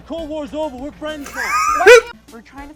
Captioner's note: wheezing